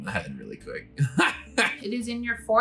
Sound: laughs

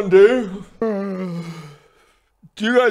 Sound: yawn

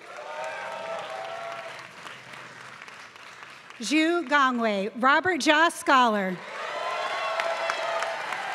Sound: applause

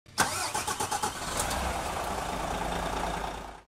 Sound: car engine roars

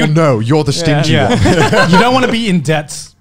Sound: laughs

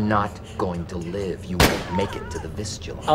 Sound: gunshot

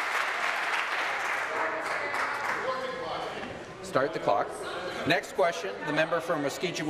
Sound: applause

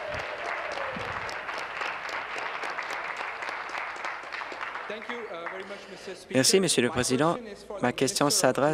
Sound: applause

